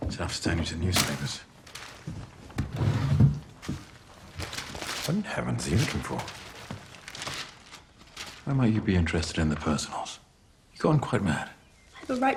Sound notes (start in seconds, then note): 4.2 paper rustling